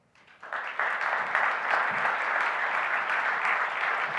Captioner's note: audience applauds